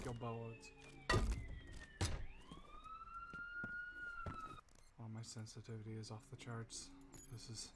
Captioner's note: police sirens